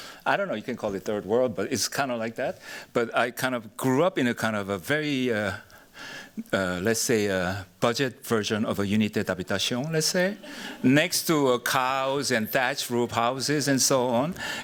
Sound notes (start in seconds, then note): 8.8 non-enlgish